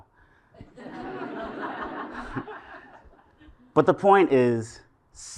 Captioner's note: laugh